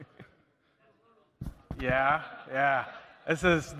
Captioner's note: laughter